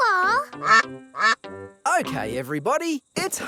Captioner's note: quacking